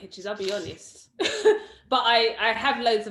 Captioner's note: chuckles